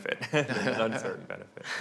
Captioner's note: laughing